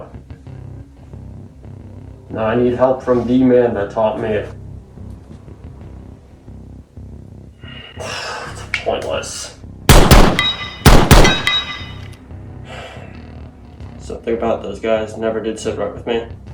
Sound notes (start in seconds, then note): 7.7 sighs; 9.9 gunfire; 9.9 distant steel targets pinging